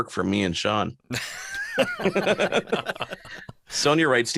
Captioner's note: laughter